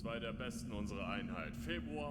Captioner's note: none